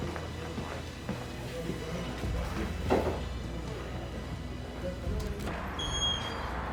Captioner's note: soft music in background; chatter softly droning; door squeaking open and closed